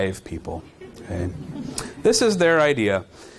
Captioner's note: audience chuckling